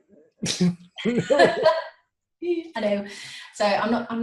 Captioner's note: laughing